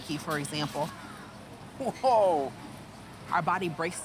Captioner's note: chortling